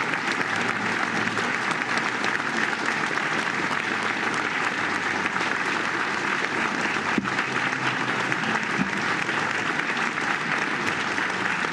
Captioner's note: applause